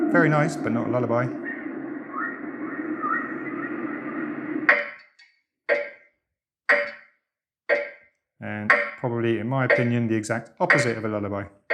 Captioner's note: sound of whales; ticking clock sound